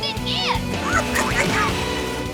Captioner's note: squeaking